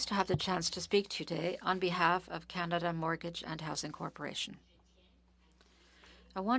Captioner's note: speaking French